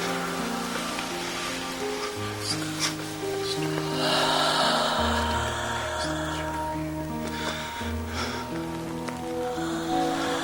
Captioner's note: whispers